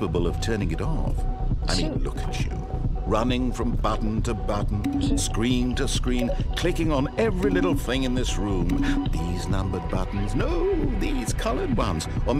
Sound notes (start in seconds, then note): 6.0 low beep; 6.0 high beep; 8.6 low beep